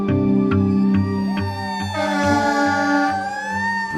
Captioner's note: sirens